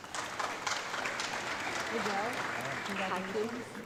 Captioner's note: audience clapping